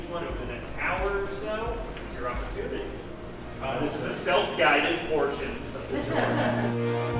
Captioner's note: laughing